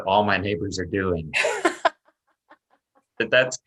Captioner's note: laughs